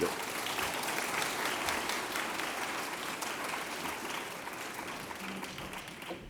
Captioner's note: applause